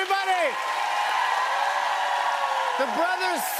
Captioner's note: cheers and applause